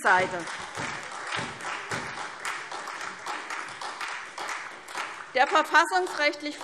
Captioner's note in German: Beifall SPD und vereinzelt Freie Demokraten